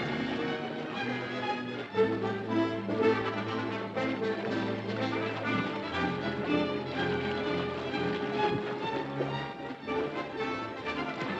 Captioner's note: suspenseful music; tiger growling; suspenseful music; water splashing